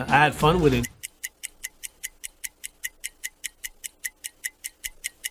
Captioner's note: ticking